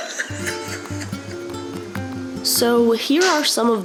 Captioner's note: laughs